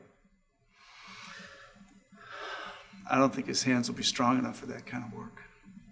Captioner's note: sighs